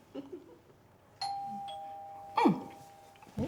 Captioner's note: chuckling; door bell ringing